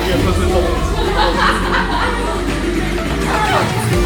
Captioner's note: group chatting; girl laughs; upbeat music